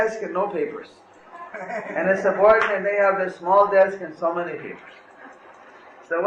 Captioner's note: devotees laugh